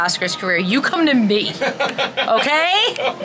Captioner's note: laughs